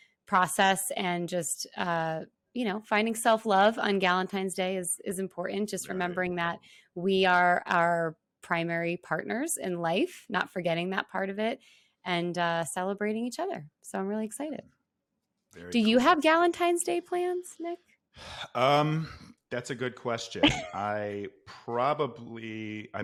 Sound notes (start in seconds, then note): 18.2 sighs; 20.4 laughs